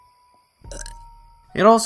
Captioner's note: burp